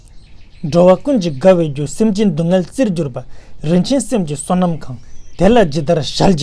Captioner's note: tibetan